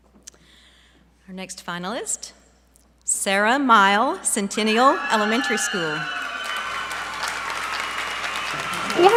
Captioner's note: applause